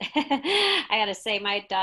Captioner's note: laughs